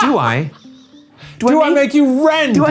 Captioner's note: laughing